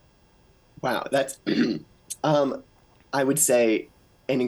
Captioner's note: clears throat